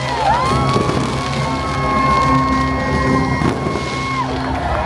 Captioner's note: guests cheering